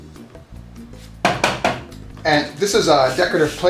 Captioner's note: tapping